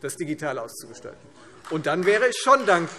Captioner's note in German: Beifall Freie Demokraten